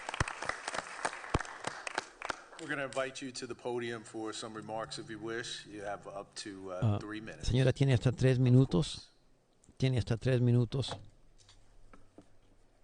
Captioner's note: applause